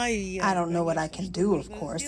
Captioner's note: through translator